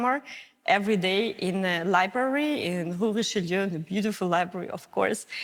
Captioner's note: speaks in foreign